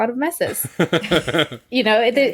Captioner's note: laughter